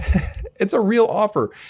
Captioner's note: laughing